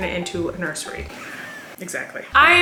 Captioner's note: cat meowing